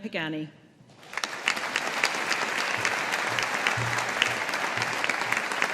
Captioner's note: audience applauding